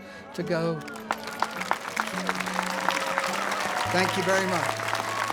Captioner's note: audience applauding